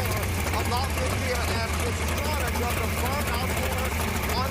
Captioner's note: engine Roaring